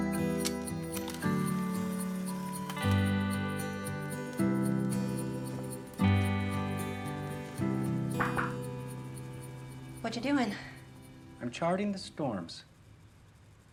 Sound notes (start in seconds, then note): 0.3 camera shutter clicks; 8.2 knocking